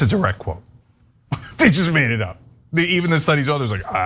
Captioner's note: laugh